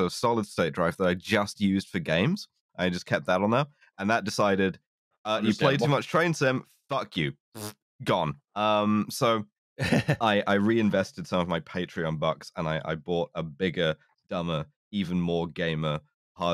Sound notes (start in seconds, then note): 9.8 chuckles